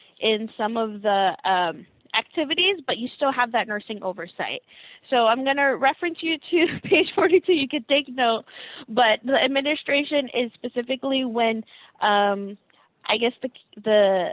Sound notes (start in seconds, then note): 7.3 laughing